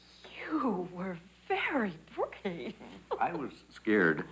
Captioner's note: laughs